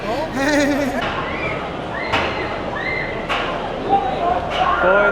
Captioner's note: loud Screaming